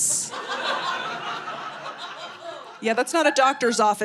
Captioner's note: audience laughing